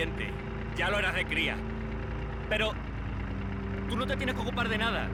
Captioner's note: none